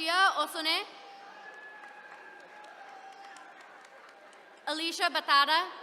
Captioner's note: attendees cheering